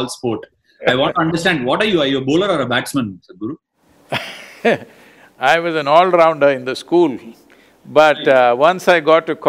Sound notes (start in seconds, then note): 4.1 laughs